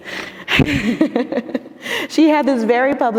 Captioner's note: laughing